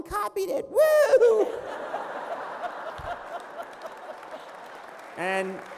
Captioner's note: laughter